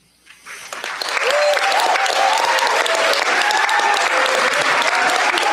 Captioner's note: cheers, applause